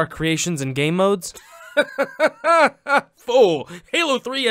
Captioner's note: laughing